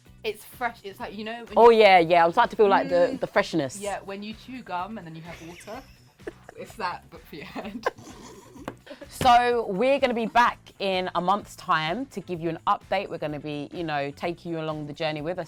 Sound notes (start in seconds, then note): 5.3 laughs; 7.2 both laugh